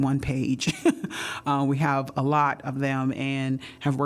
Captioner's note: laughter